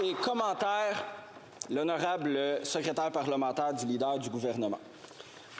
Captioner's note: applause